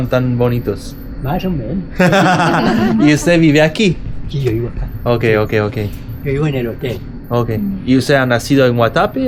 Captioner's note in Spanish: risas